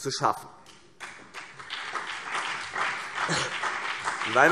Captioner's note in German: Beifall CDU und BÜNDNIS 90/DIE GRÜNEN